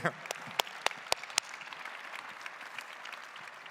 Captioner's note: claps